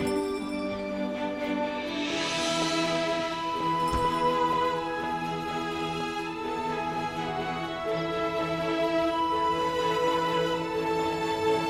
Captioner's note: door bell jingles